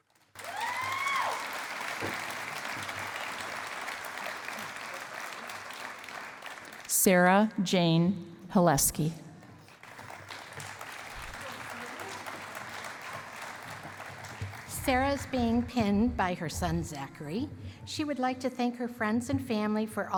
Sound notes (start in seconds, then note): 0.0 cheering and applause; 9.4 applause